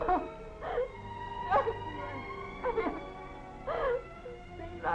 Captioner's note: hysterical sobbing